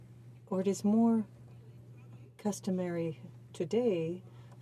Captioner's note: speaking French